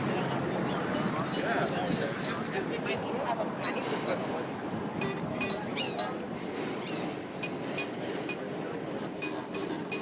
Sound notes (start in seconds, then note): 0.1 plinking; 1.6 squeaking; 3.5 pinging